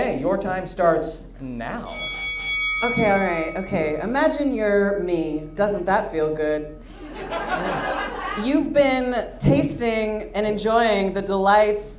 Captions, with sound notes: - Okay, your time starts now. (bell dings) - Okay, all right. Okay. Imagine you're me. Doesn't that feel good? (audience laughs) You've been tasting and enjoying the delights